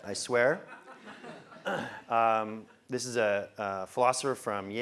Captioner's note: laugh